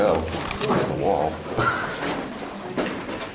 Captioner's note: laughing